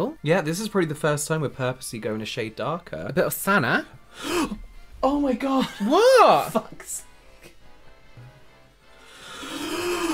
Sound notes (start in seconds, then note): 4.1 terrified gasp